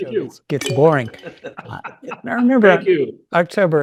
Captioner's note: chuckling